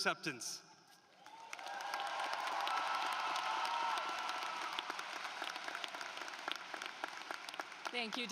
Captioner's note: applause